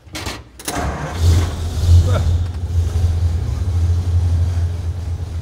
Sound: engine starting

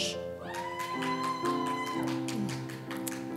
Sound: applause

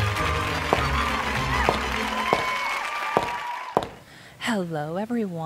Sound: audience cheers; footsteps

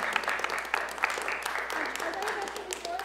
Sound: applause

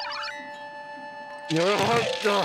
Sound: groans

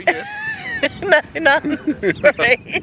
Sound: laughing

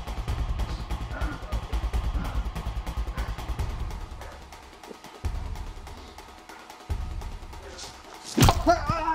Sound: heavy breathing

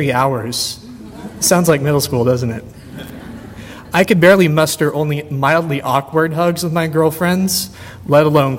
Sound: audience laughter

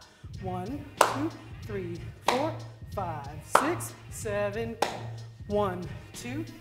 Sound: clap

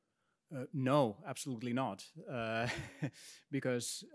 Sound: laughs

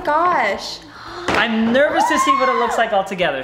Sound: squeals

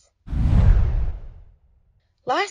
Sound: whooshing

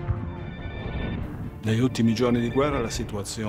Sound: speaks in foreign language

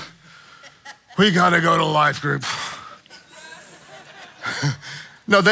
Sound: laughing; congregants laughing

